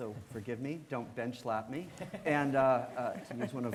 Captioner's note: laughing